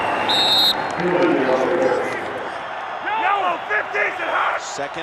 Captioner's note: whistle blows